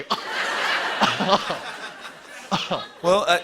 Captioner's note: laughs